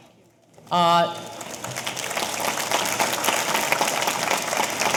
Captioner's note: audience applauding